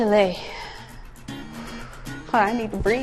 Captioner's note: breathing out